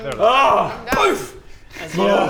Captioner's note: boof!